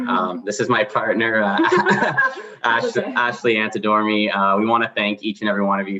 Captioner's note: laughs